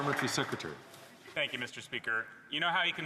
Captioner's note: some Applause